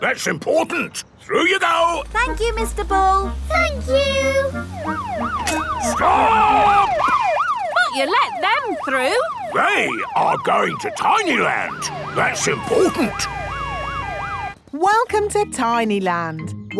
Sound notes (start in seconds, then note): 5.2 siren wailing; 13.5 sirens wailing